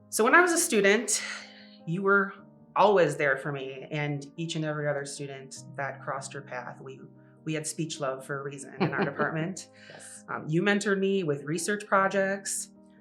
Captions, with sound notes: So, when I was a student you were always there for me and for each and every other student that crossed your path. We had speech love for a reason in our department. - (laughs) Yes. - You mentored me with research projects,